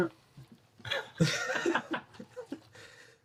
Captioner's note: laughing